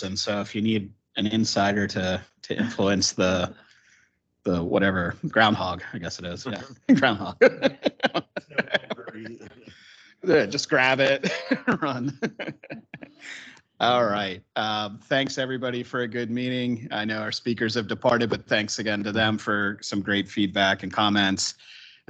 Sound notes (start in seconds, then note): 8.2 laughs; 12.8 laughs